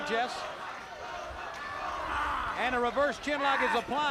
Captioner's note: crowd chatter